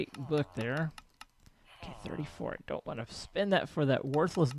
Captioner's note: chattering continues